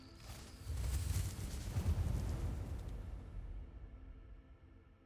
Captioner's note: fire going out